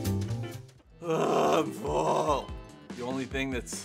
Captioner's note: quick jazzy music; groaning